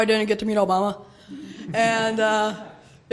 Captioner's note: laughter